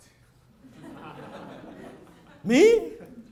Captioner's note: audience laughing